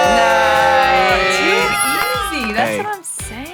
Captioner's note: crowd cheering